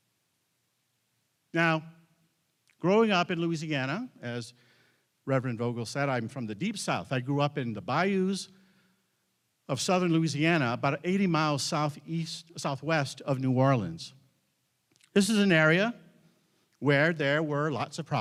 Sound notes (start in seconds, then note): none